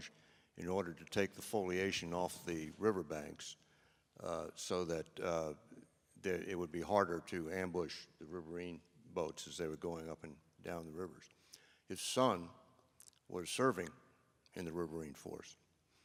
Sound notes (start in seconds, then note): none